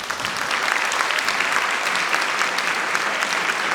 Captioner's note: applause